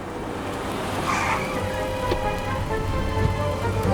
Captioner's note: tires screech